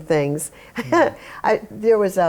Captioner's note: laughter